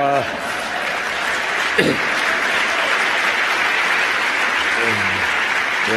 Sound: applause

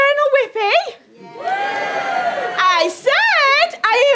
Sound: audience cheers

